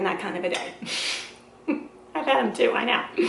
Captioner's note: laughing